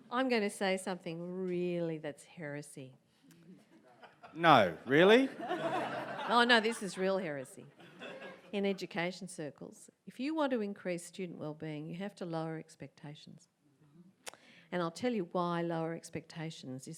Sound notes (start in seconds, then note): 5.7 audience laughs